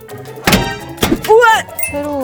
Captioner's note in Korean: 우당탕 쿠당탕